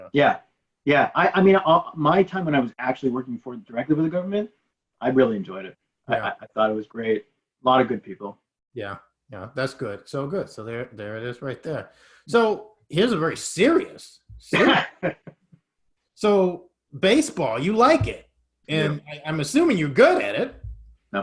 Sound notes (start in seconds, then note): 14.5 laughing